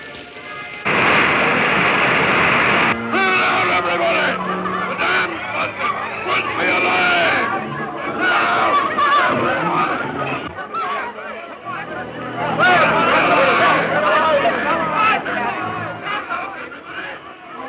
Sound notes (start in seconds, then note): 0.9 water rushing; 9.4 people panicking